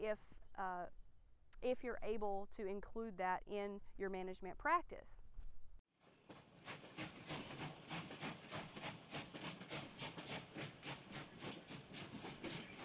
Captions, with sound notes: if you're able to include that in your management practice. (train wheels clacking)